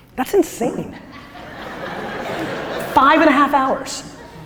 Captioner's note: audience laughter